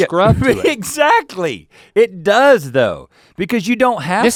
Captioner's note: laughs